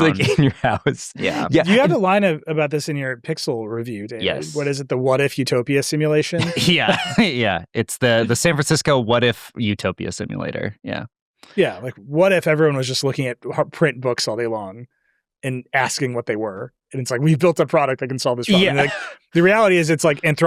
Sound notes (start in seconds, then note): 6.2 chuckles